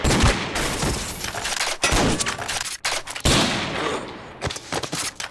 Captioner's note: grunts and gunshots